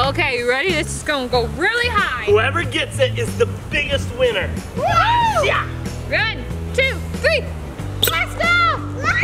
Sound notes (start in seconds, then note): 4.8 cheers; 8.1 toy squeaks; 9.0 screams